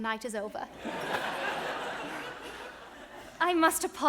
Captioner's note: audience laughs